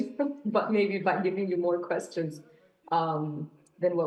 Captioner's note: none